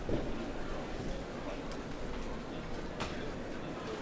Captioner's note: chatter